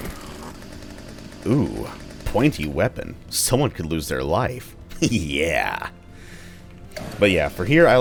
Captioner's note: chuckles